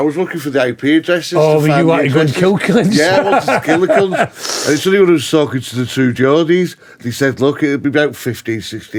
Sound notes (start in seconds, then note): 1.7 laughing